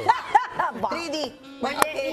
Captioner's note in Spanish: risas